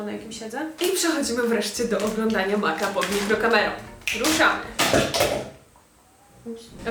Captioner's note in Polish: trzaski